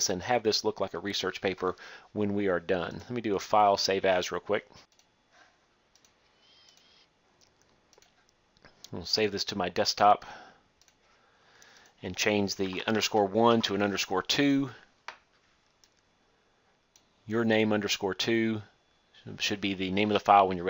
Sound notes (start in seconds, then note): 5.9 clicking; 15.8 click